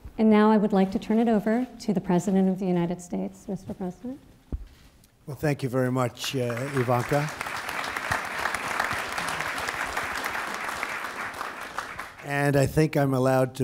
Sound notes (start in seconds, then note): 5.7 applause